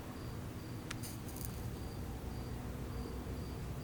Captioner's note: match fizzling